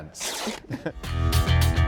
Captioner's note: pants tearing; upbeat music